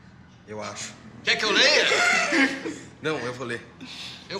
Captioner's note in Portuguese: Risadas